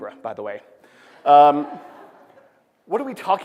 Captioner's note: laughter